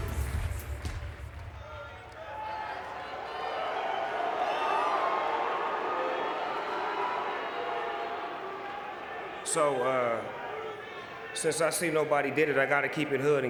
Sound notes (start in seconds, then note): 2.0 audience cheering